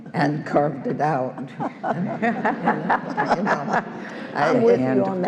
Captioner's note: all laughing